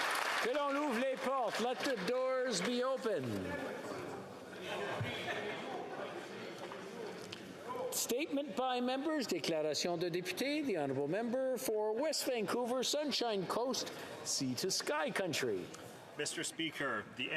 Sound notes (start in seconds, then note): 0.0 applause